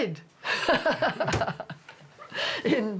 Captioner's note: laughs